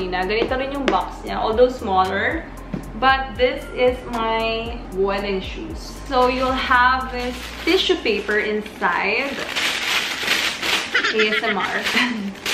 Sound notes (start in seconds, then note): 9.3 paper rustling